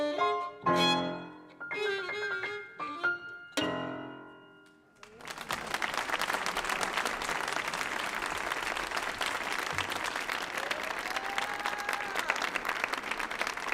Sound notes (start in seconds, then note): 5.0 audience applauding